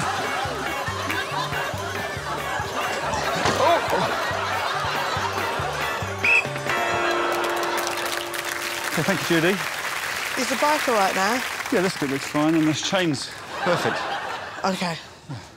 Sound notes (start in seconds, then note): 6.2 whistle blows